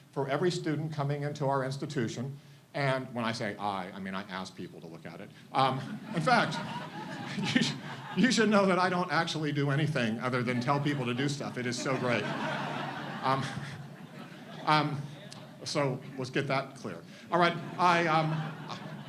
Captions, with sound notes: for every student coming into our institution, and when I say I, I mean I ask people to look at it. In fact, you should know that I don't actually do anything other than tell people to do stuff, it is so great. (audience laughs) So, let's get that clear.